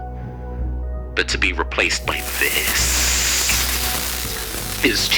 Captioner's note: static Build Up